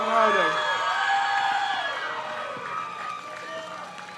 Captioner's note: crowd cheers